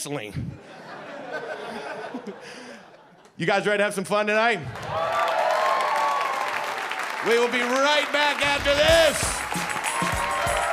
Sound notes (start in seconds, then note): 0.5 audience laughing; 6.9 audience applauding; 10.5 energetic music